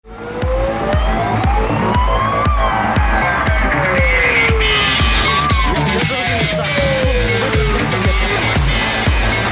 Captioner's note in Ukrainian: звук сирени; грає швидка музика